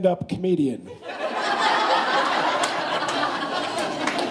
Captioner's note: laughing; whooping and applause